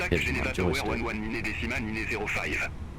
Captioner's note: radio chatter